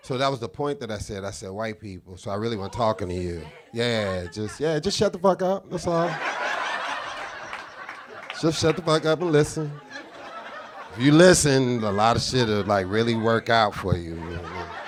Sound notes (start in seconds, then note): 6.3 audience guffaws; 14.6 audience laughing